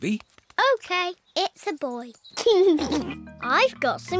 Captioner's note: giggles